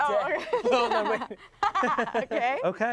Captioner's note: everyone laughs